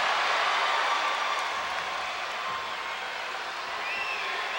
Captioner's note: crowd cheering